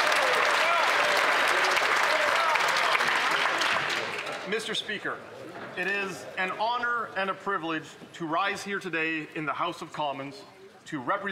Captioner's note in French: voix de l'interprète; applaudissements; voix de l'interprète